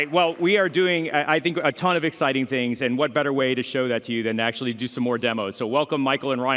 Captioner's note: cheering and applause